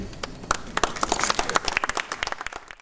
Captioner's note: audience applauds